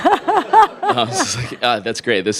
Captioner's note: audience laughing